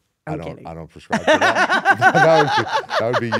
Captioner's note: laugh